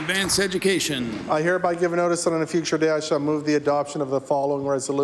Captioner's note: applause